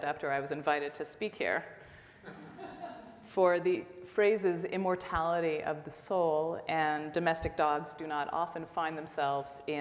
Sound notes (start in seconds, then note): 2.2 audience laughs